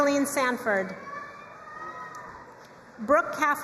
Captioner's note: crowd cheering and applauding